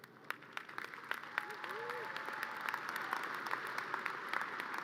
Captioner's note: audience cheers and applause